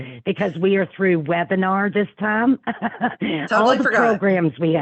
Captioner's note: laughing